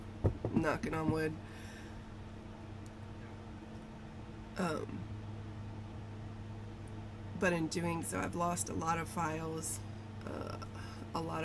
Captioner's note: knocking